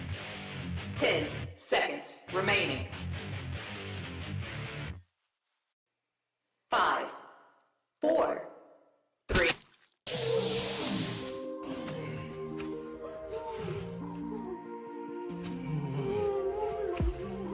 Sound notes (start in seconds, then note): 9.4 flesh squelch